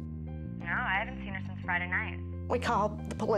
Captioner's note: on phone